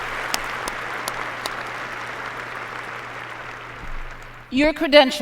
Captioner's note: applause